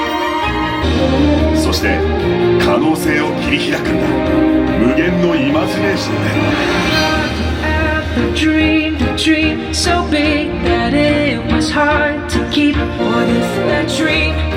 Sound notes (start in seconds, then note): 0.2 dramatic music continues; 3.3 announcer speaking Japanese